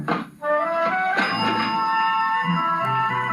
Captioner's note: ding